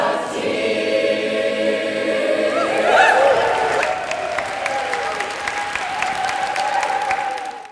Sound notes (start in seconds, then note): 2.4 whooping & applause